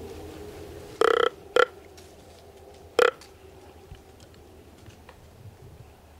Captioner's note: blowing grunt call